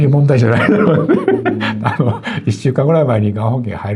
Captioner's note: laughs